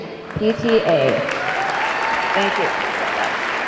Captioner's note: audience clapping; audience cheering